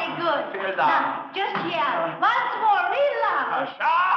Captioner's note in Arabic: الصوت المنطوق باللغة الألمانية